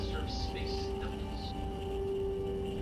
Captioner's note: phone buzzing